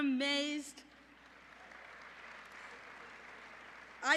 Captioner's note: applause